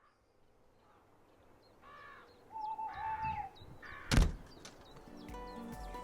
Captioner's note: rooks cawing, owls hooting and a door shutting